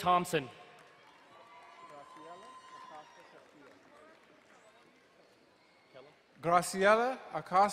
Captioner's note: crowd cheering and applauding